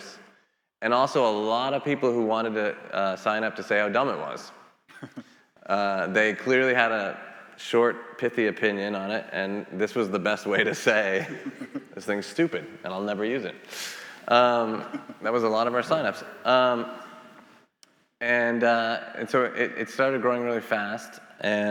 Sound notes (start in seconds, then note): 4.9 laughing; 10.4 laughing; 17.3 laughing